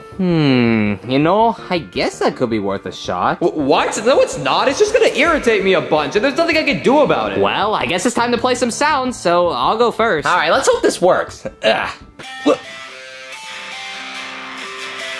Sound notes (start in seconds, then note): 12.3 upbeat music; 12.4 grunting